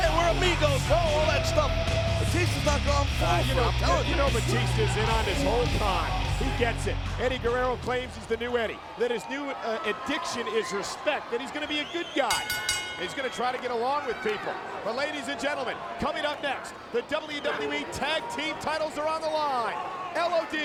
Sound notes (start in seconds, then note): 12.2 bell dinging